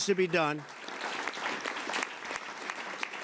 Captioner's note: applause